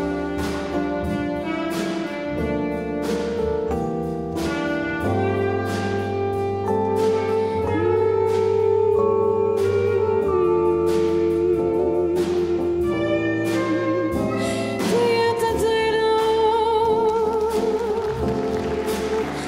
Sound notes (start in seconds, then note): 7.4 soloist humming; 7.9 mellow funky music; 15.1 scattered applause; 15.1 soloist scat singing